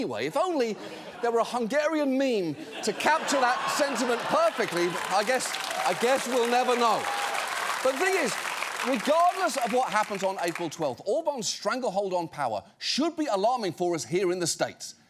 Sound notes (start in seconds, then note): 2.5 audience laughing; 6.5 audience applauding